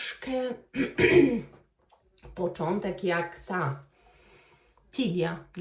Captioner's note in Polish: kaszel